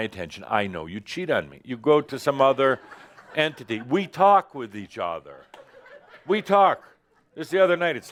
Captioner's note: some laughter